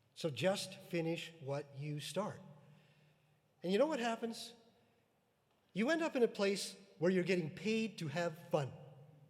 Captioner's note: none